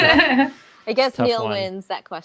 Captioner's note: both laughs